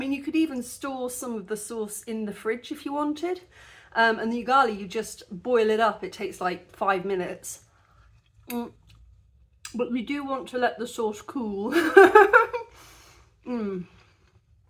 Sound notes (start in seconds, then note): 11.8 laughing